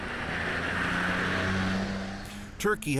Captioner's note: speaking Foreign Language